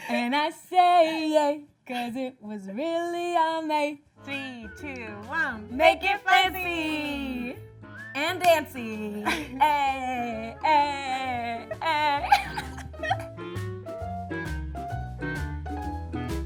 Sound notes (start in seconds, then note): 12.8 laughing; 13.7 upbeat music